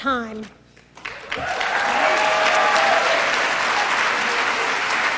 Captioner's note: applause